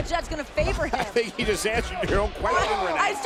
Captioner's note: laugh